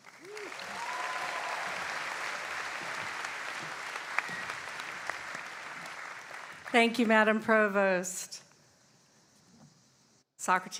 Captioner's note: applause